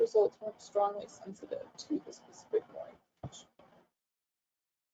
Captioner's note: audio drops out